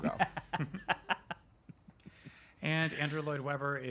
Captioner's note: chuckles